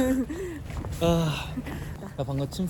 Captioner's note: sigh